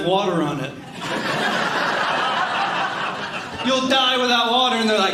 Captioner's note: audience laughing